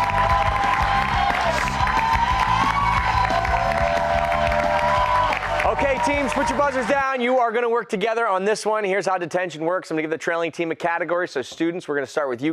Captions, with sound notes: LET'S DO IT. (CHEERS). OKAY, TEAMS, PUT YOUR BUZZERS DOWN YOU ARE GOING TO WORK TOGETHER ON THIS ONE. HERE'S HOW DETENTION WORKS, I'LL GIVE THE TRAILING TEAM A CATEGORY, STUDENTS WE START WITH YOU.